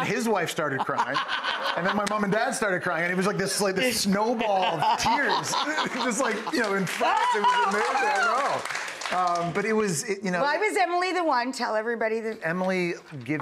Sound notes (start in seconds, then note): 4.4 laughing